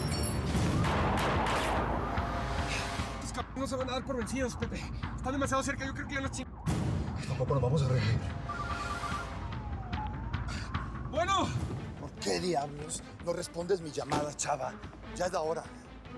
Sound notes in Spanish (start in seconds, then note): 8.5 suena el celular; 9.8 sonido de sirenas